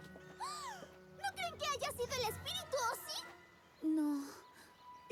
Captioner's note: gasp